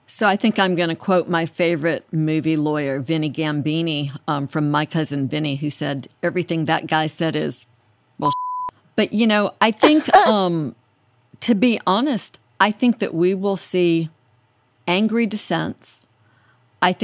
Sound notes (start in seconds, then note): 8.3 beep